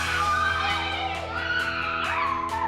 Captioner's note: squealing